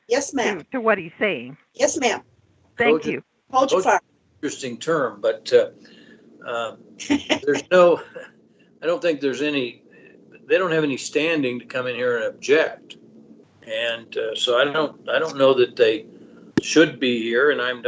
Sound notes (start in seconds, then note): 7.4 laughs